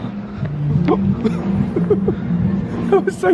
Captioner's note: laughs